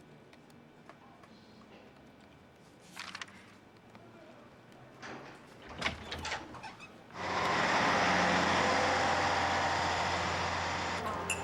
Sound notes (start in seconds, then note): 5.6 door opens; 7.2 traffic roars